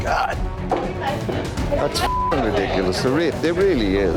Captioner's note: patrons chattering; beep